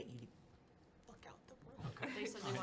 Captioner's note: under her breath